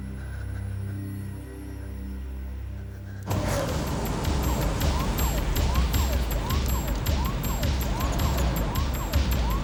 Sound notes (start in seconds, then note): 3.4 siren wailing; 3.6 upbeat suspenseful music